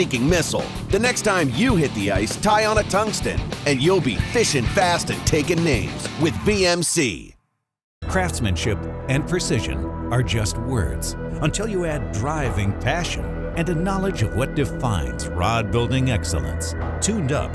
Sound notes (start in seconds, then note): 8.6 voiceover